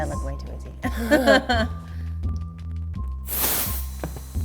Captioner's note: laughing